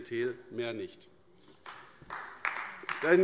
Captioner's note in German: Beifall AfD